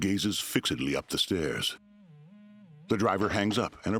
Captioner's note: strange tone